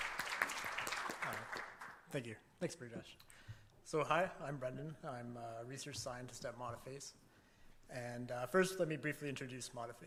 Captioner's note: applause